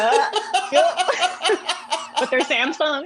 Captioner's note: laughter